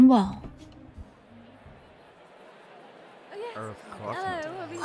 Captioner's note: crowd murmuring